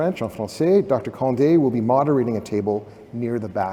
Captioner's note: french